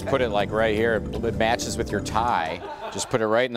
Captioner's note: laughter